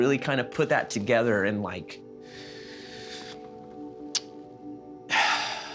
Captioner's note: sighing